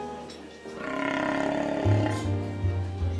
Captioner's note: stomach growling